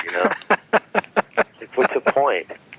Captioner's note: laughing